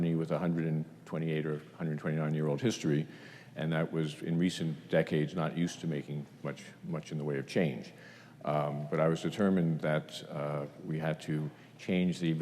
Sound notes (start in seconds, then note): none